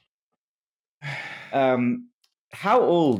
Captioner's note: sighs